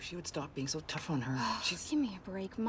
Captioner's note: sighing